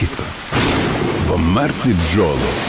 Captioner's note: rain and thunder